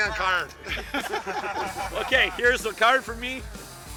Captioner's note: laughing